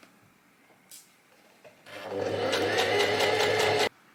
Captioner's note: sewing machine continues to surge